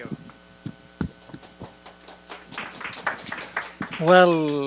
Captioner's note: audience applause